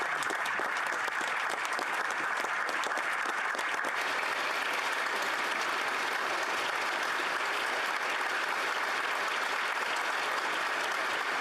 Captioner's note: applause